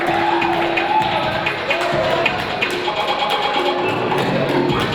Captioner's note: audience cheering